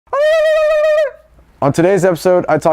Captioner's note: war whoops